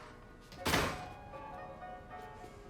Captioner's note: door slams